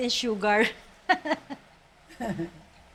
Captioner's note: chuckles